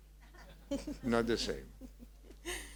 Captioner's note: audience laughing